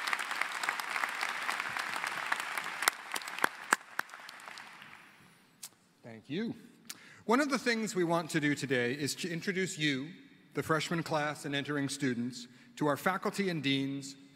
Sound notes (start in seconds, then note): 0.0 applause